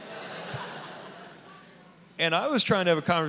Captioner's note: audience laughing